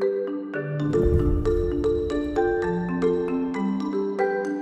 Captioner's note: gentle marimba music; logo whooshing